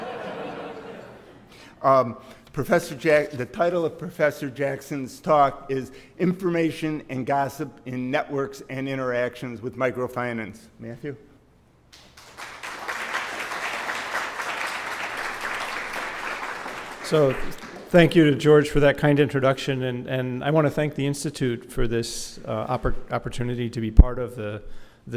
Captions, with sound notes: >> [LAUGH] >> Professor Jack, the title of Professor Jackson's talk is Information and gossip in networks and interactions with microfinance. Matthew. >> [APPLAUSE]. >> So, thank you to George for that kind introduction. And, and I wanna thank the institute for this opper, opportunity to be part of the,